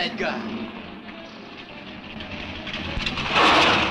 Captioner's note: engine rumbling; lively music plays on radio